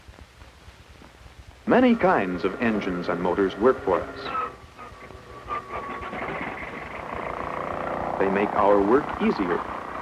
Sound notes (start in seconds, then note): 4.8 airplane noises